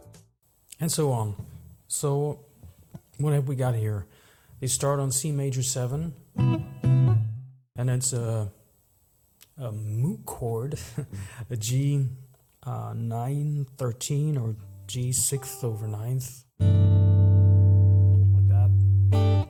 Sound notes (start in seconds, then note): 6.3 guitar chords; 10.8 chuckle; 14.6 strums chord